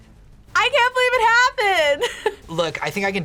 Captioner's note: laughs